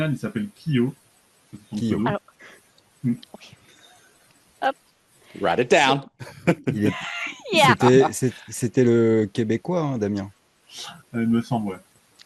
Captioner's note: translating from French